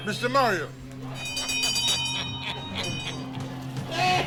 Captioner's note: bell ringing